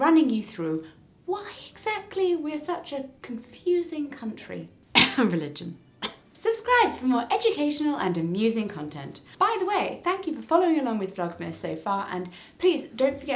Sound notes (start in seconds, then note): 4.9 cough